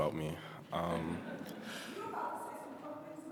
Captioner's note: attendees laughing